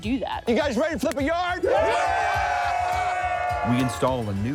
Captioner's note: cheering